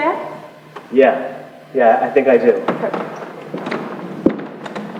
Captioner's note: laughs